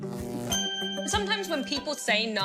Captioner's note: ding!